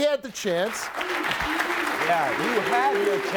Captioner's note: audience clapping and cheering